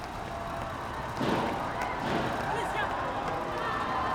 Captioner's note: gun shots